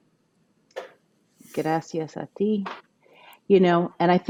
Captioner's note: speaking a foreign language